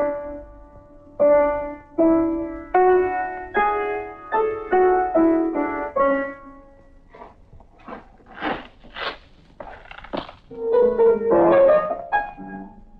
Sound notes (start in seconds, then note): 0.0 playing piano; 7.1 shoes squeaking; 10.5 playing piano